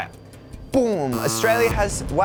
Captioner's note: buzzing